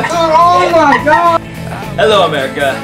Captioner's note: Osama laughing; all laughing